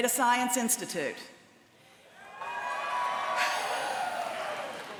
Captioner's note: cheering